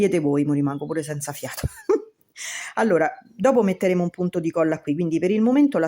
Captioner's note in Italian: risate